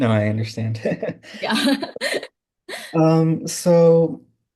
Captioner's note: laughing